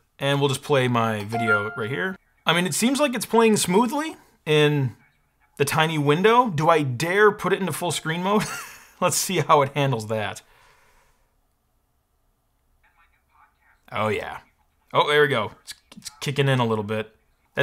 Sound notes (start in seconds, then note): 8.5 laughs